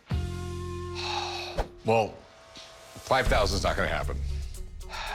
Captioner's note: sighs; sighs